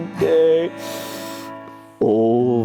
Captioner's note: sniff!